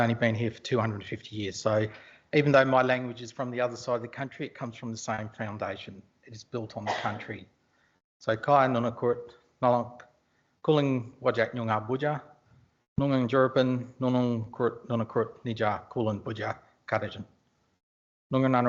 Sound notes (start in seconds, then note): 11.1 indigenous language spoken